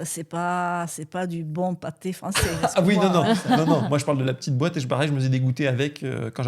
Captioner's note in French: rires